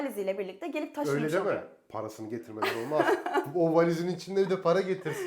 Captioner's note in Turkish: kahkaha